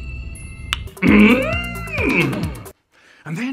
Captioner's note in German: mmmmmmmmmmmmmmmmMmmMMMmmmm